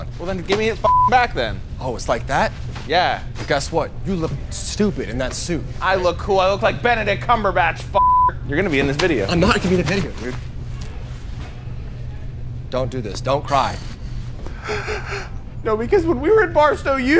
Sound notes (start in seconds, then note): 0.8 beep; 8.0 beep; 14.6 cries